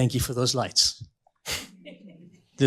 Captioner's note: laughter